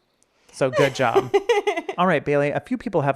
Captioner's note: laughing